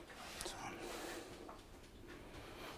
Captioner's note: quietly